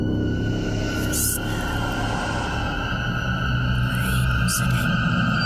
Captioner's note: voices whispering